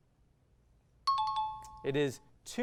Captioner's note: timer